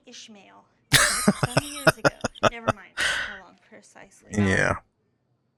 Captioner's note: laughing